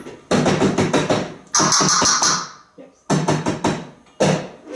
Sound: Einstein makes banging sound as Jeff bangs a bowl on the garbage pail

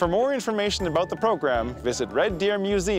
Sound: voiceover

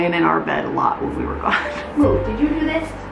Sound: laughs

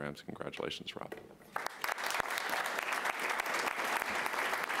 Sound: applause

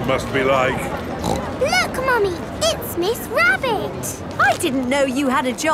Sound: snorts

